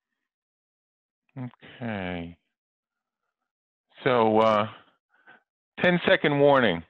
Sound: chuckles

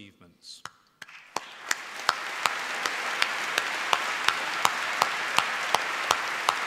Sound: applause

